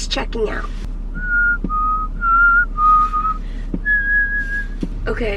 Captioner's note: whistling